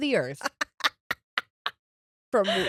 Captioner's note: laughing